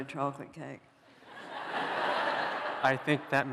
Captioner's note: laughter